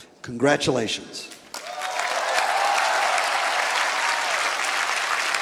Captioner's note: applause